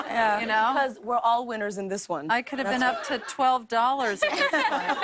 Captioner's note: laughter